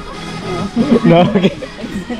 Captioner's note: laughs